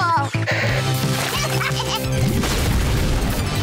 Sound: laughing

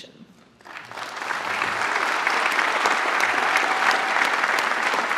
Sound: applause

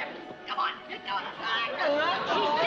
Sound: both grunting

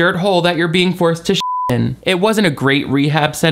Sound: beep

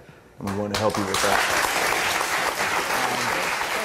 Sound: audience claps

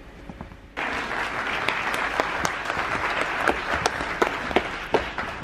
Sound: audience clapping

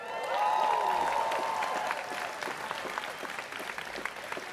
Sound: students cheering

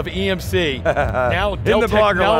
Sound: laughing

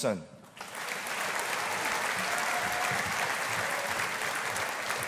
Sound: audience applauding

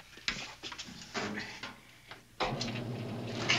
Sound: washing machine running

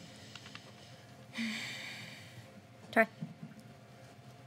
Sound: sighs

